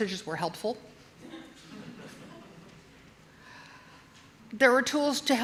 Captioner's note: audience chuckling